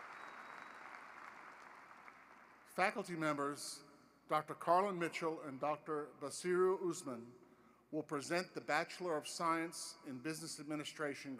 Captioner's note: applause